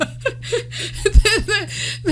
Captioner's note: laughing